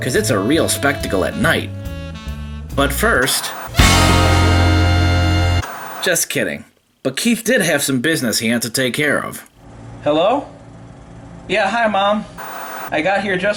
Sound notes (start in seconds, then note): 3.1 white noise scratching; 3.6 upbeat horn music; 5.7 white noise scratching; 12.4 white noise scratching